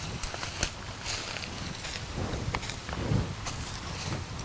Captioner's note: leaves crackle